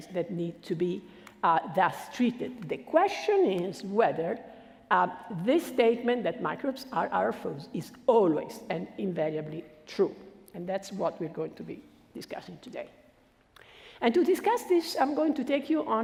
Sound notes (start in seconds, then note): none